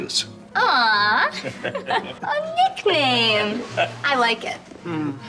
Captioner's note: chuckling